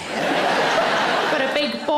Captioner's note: audience laughs